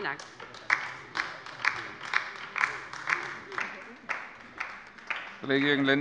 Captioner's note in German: Beifall bei der LINKEN